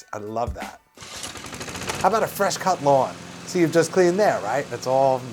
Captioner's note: SFX: lawn mower starts